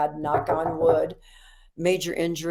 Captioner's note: knocks on table